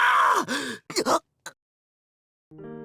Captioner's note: gasp